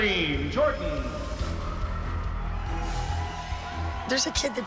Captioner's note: cheering